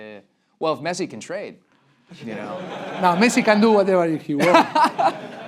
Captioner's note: laugh break